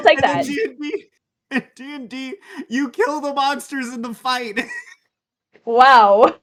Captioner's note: laughs